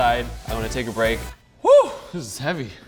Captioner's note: whoops loudly